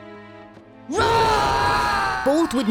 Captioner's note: roaring